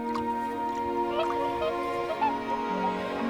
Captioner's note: swans honk